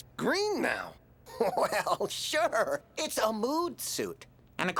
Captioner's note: laughing